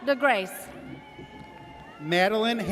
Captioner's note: audience cheers